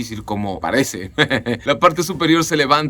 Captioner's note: laughter